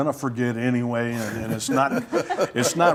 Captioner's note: laughter